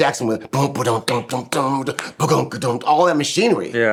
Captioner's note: imitates drum beat